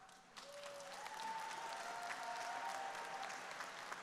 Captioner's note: audience applauding